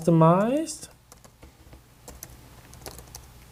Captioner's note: typing